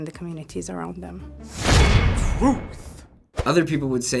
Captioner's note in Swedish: clang!